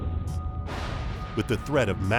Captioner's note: explosion booming